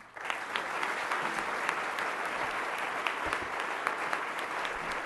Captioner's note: applause